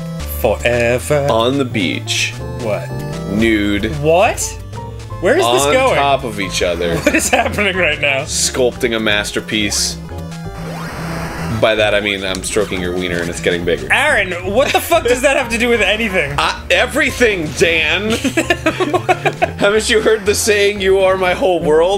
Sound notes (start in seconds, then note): 14.4 laughing; 17.9 laughing